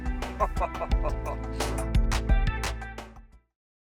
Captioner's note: laughter